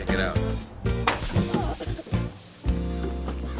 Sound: radiator boiling

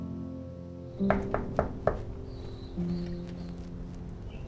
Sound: knocking

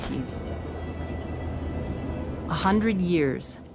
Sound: wind and rumbling skies

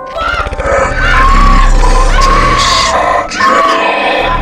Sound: screams

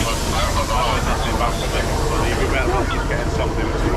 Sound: train engine starts; radio chatters; train idles

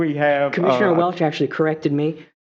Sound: laughter

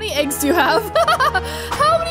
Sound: chuckles

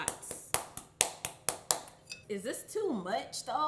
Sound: hand pounding

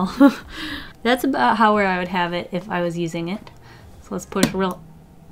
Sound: 𝙎𝙉𝘼𝙋

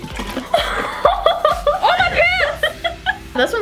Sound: laughs

